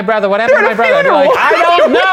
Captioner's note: laughs